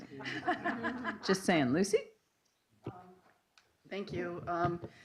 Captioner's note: laughing